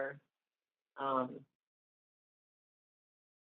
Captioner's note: silence